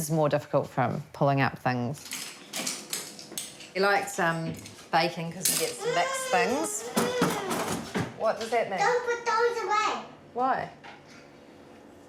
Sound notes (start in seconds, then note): 5.8 grizzles